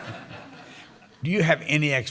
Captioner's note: laughter